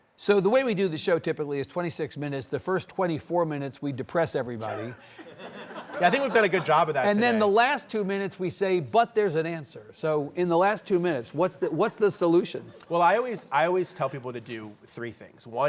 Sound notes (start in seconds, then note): 4.7 audience laughs